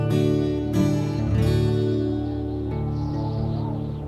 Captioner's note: wind whistling